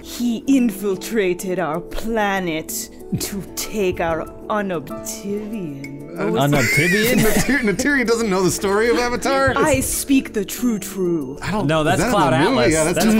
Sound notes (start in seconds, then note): 6.3 chuckles